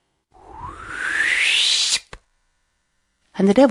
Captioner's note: whooshing noise